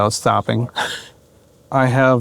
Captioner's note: chuckling